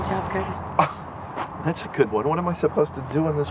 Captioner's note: scoffs